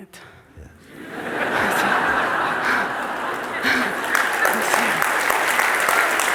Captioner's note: laughter and clapping